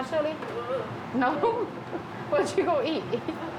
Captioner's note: chuckles